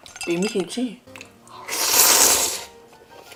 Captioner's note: sluuurrp